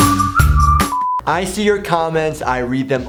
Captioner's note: upbeat whistling music; quick beep